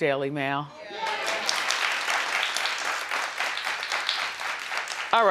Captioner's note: audience applauding